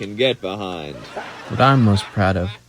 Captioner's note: laughter